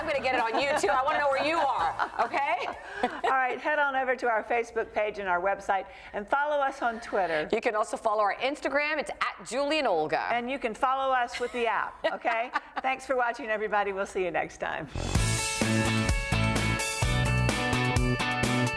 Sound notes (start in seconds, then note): 3.1 laughs; 11.3 laughs